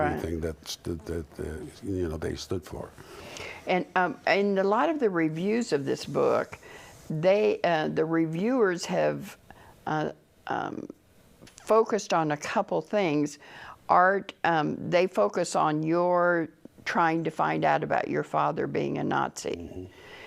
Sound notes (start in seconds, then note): 12.1 sound of agreement